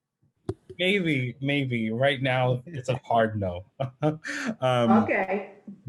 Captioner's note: chuckles